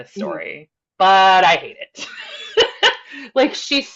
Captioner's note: laughs